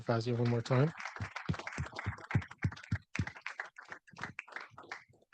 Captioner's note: audience applauding